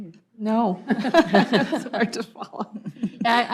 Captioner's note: group laughing